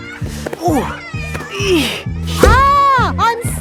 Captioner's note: grunting